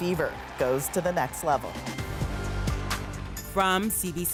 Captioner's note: cheers and Applause